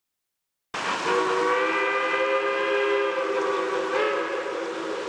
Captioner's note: train whistle blowing